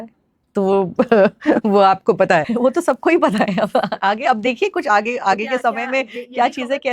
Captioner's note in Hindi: हंसी